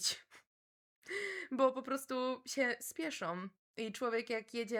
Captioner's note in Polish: wciągnięcie powietrza